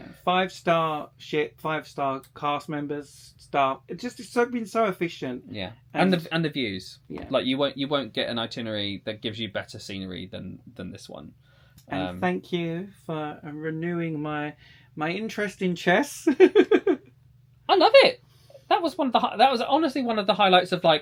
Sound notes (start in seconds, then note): 16.6 laughing